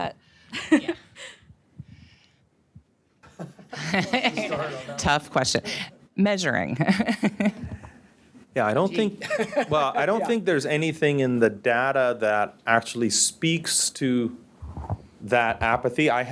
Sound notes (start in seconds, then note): 0.4 laughs; 3.2 panel and laugh; 7.5 laughs